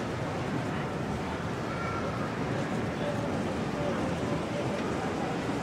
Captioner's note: train passes